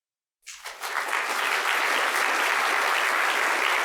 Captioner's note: applause